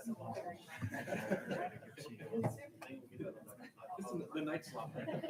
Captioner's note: people chattering; people laughing